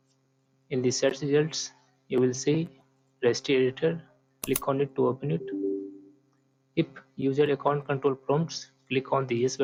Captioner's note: click